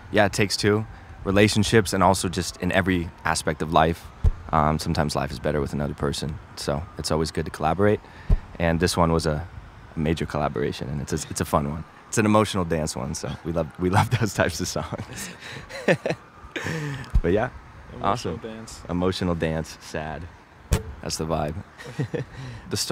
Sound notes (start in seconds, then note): 14.9 laughs; 21.7 laughs